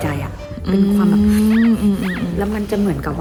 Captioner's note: breathes in and out